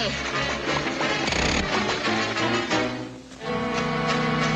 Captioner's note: lever clicking; dramatic music